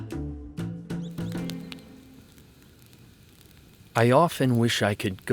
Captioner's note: fire crackling